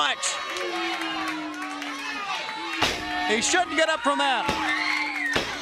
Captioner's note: crowd cheering